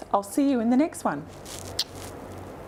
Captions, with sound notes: I'll see you in the next one. (kiss smack)